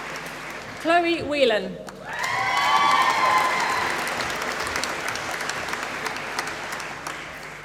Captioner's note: applause